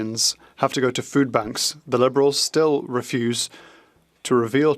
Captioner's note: speaking French